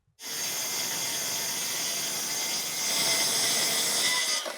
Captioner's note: power tool whizzing